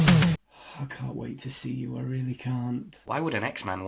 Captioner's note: sigh